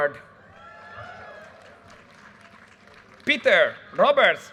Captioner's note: audience cheers and applause